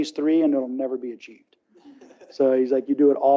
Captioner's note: laughs